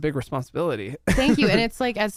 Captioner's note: laughs